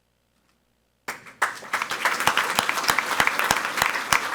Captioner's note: people clapping